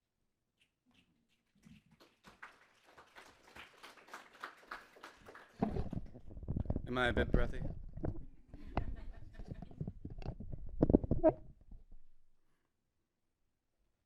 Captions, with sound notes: (audience applauding) Am I a bit breathy? (audience laughing)